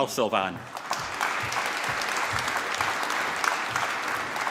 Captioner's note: applause